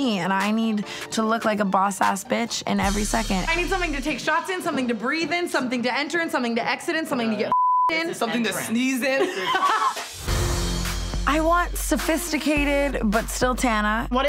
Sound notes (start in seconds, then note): 9.0 Tana laughing